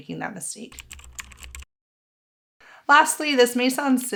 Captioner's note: keyboard clicking